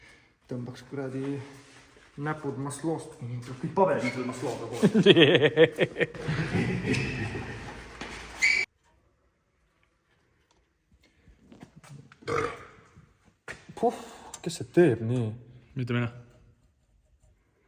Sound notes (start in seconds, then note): 12.1 burps